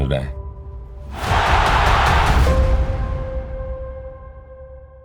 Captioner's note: crowd cheers